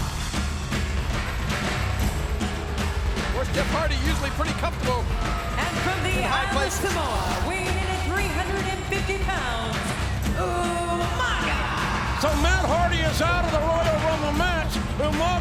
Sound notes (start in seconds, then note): 0.3 upbeat music; 3.0 audience booing